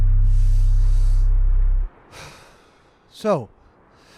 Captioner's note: breathes deeply